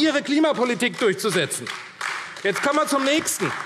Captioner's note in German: Beifall AfD